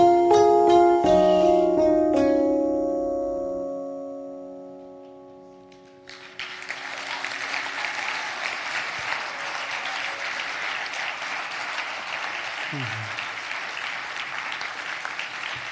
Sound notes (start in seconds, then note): 7.9 audience applause